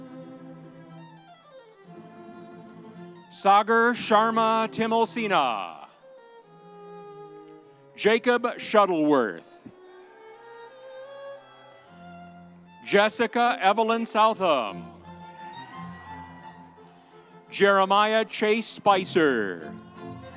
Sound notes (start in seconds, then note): 9.8 audience cheering; 15.2 audience cheering